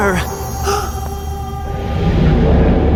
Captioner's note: gasp